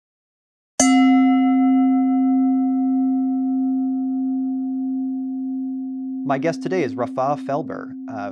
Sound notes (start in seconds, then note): 0.3 bell chimes